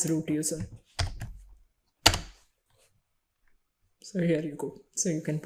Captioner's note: keyboard keys clicking